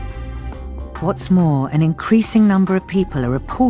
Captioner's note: voiceover